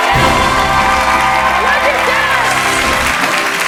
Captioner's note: applause